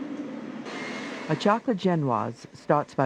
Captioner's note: voiceover